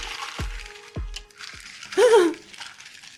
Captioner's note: startled voice